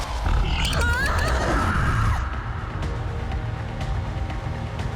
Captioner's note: screaming